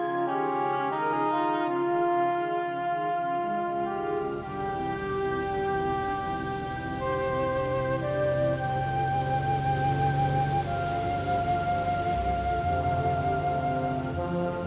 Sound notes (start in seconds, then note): 3.9 engine roaring